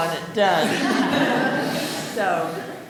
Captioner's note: audience laughing